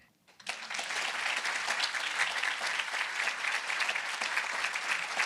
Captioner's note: audience applauding